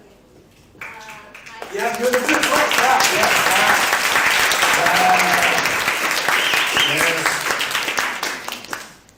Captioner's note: clapping and cheering